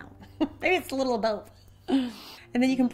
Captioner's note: laughs